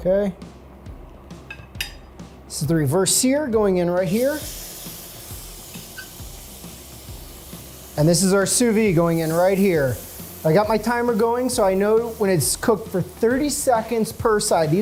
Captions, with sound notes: Okay. This is the reverse sear going in right here. (sizzling) And this is our sous-vide going in right here. I got my timer going, so I know when it's cooked for 30 seconds per side.